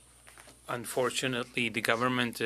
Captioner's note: speaking French